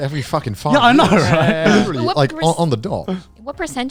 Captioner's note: laughs